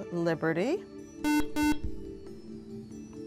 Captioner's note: buzzer